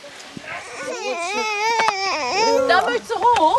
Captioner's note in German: Babyweinen